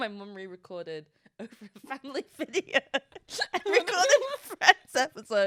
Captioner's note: laughs